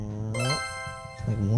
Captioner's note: sparkle sound